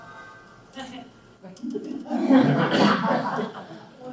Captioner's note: laughs